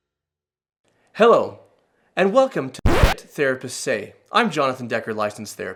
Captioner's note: scratchy sound